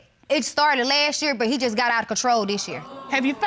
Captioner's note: audience exclaims